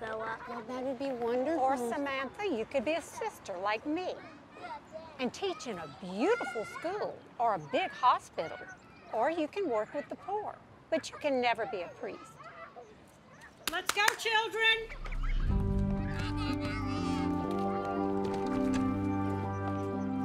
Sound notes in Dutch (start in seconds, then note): 13.6 Zuster Jean klapt; 14.9 rustgevende muziek